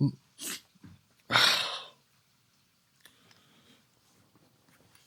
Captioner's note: groans; sighs